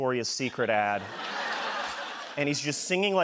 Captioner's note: laughter